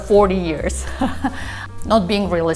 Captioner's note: laughs